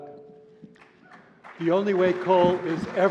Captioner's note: applause